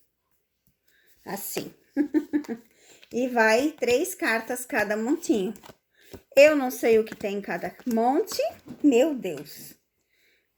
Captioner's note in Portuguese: risadas